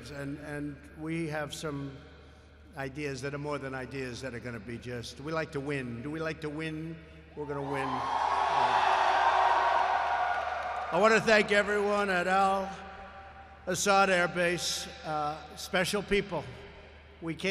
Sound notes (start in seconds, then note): 7.9 applause